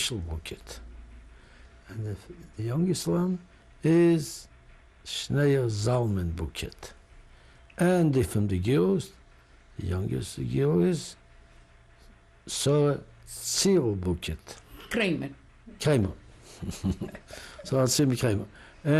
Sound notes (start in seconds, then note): 16.4 laughter